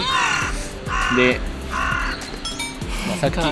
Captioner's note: crow barks lol